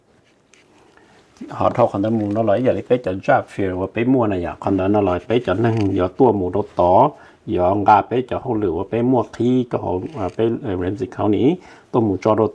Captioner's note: Speaking in Hmong